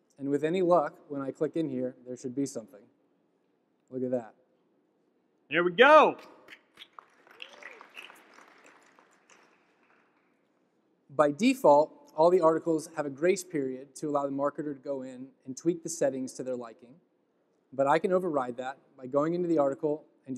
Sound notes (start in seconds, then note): 6.4 claps; 6.4 audience clapping